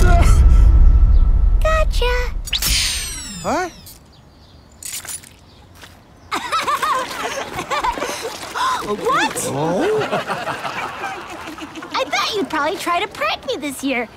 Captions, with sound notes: Gotcha. Huh? [all laughing] -Come on. -What? [laughing continues] I thought you'd probably try to prank me this year.